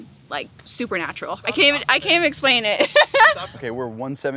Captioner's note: laughs